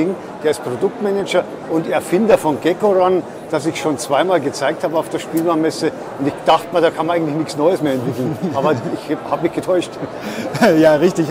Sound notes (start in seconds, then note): 7.9 laughs